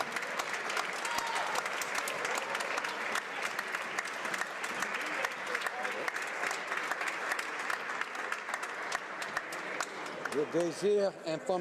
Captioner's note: some Applause